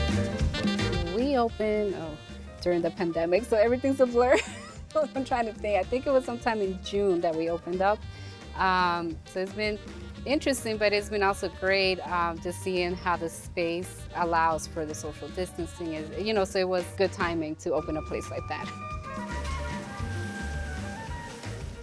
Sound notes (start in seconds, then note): 4.3 chuckles; 18.8 upbeat music